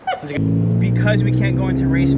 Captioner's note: car engine revving